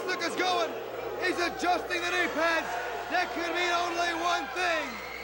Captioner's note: crowd cheering